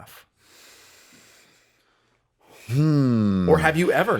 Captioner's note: Wisdom inhales deeply